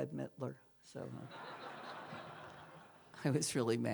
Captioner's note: laughter